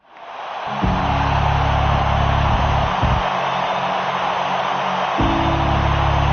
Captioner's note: crowd cheering